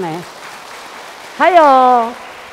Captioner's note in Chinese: 眾人鼓掌